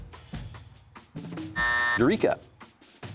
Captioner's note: buzzer sounds